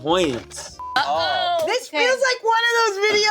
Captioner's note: beep